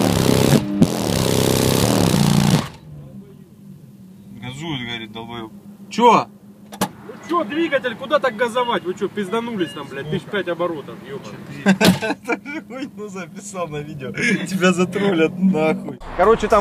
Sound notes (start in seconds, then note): 6.6 door opens